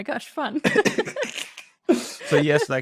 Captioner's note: laughter